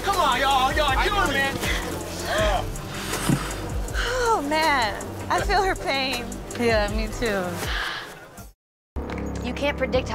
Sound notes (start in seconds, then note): 1.6 gasping; 9.1 ominous music